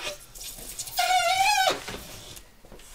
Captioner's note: squeaking